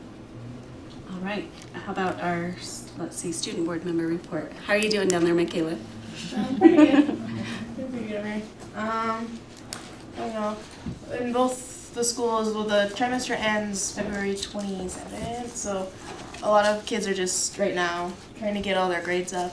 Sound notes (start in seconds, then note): 6.1 laughter